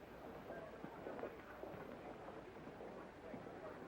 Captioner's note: people chattering